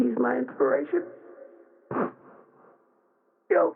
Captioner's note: sobbing